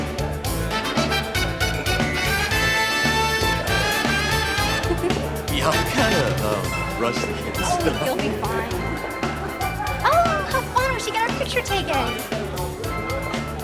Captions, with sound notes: (Maddie giggles) - Yeah, I'm kinda rusty. - Oh, you'll be fine. Oh, how fun, she got her picture taken.